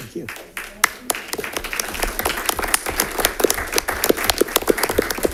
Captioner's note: audience applauding